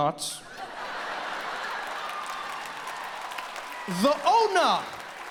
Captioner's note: audience laughs